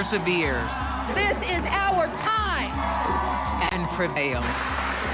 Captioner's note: cheering and applauding